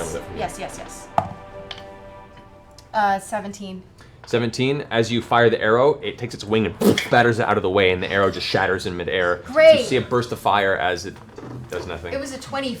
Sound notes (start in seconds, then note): 6.0 whoosh